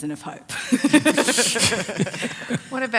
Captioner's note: laughs